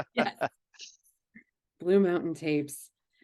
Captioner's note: laughing